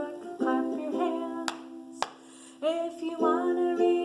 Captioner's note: hand slapping